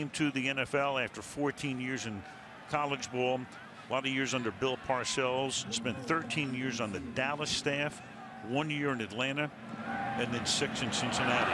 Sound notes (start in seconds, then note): 5.9 crowd clamoring